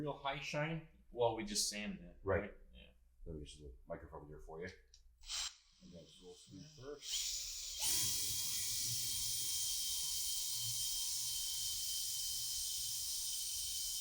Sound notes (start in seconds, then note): 5.3 drill whirring